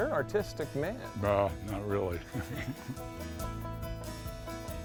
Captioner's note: chuckles